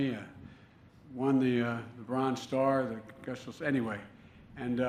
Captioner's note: none